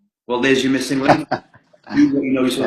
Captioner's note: laughs